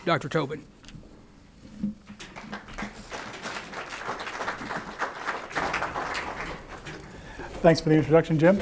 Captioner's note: applause